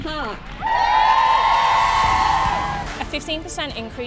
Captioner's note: protesters cheer